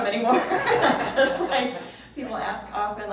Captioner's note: laughs